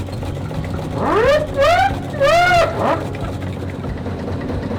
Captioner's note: steam siren wailing